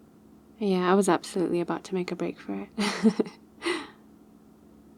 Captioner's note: laughs